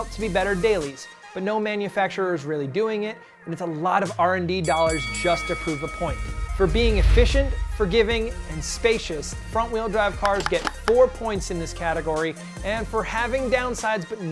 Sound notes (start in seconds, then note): 4.6 ringing bell